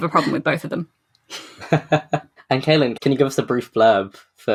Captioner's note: laughs